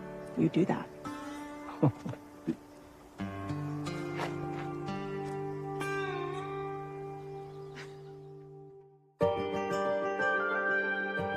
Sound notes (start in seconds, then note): 1.6 Nathan chuckles; 9.2 theme music plays